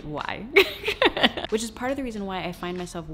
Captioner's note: laughs